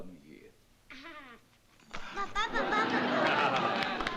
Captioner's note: laughs